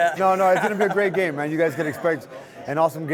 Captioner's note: laughs